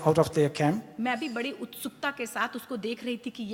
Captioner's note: speaks foreign language